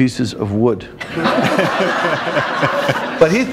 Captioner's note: laughter